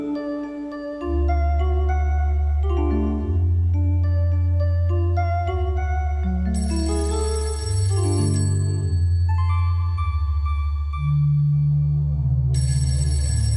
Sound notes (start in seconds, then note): 6.3 phone ringing